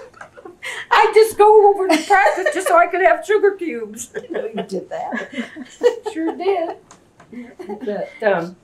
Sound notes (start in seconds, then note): 4.0 laughs